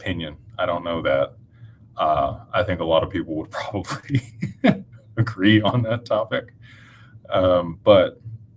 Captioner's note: laughter